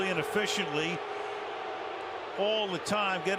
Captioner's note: booing